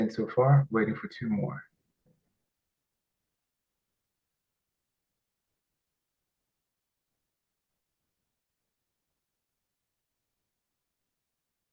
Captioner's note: pause